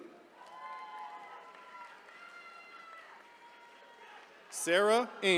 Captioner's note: attendees cheering